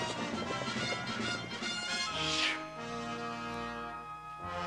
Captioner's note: exhales sharply